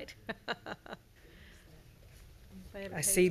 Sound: laughing

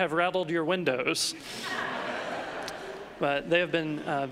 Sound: congregation laughing

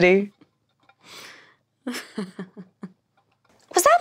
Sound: semi-stifled useless lesbian laughter

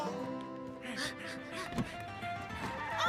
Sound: panting; tires screeching

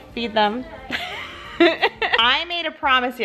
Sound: giggling

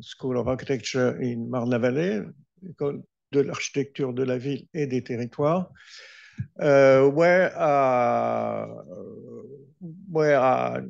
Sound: speaking french

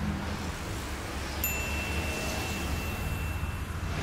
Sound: ding

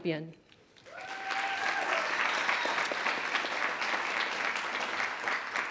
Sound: attendees applauding

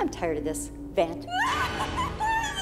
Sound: screaming

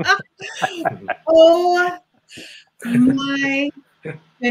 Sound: off-camera voice

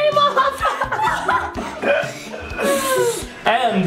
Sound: both laughing

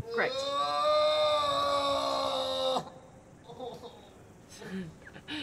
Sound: moaning

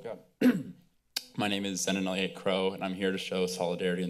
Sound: clears throat

